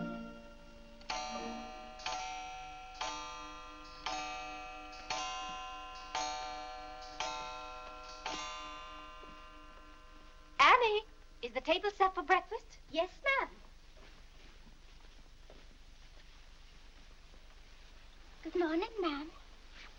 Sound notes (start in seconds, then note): 0.0 clock chimes